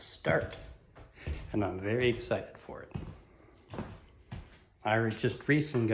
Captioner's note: footsteps